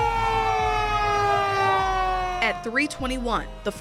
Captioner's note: fire sirens wailing